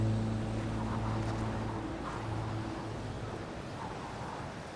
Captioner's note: wind gusting